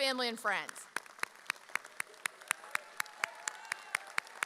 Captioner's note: audience cheers